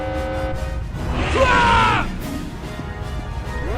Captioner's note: screams